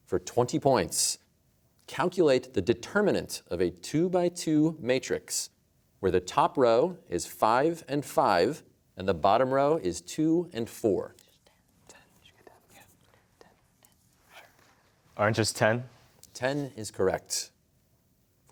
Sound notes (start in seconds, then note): 11.5 whispering